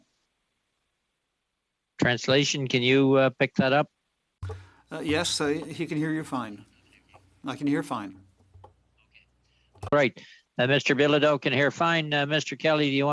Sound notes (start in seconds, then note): 1.0 speaking French